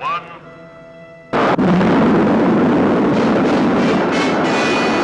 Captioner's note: rocket rumbling